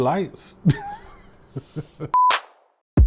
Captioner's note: laughs